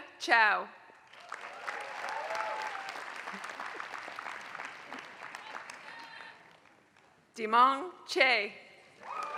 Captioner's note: applause; applause